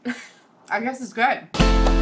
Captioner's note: laughing; upbeat guitar music